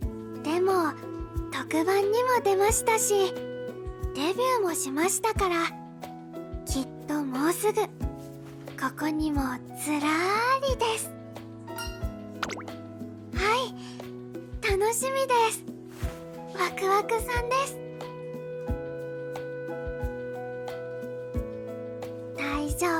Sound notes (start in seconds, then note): 17.2 excited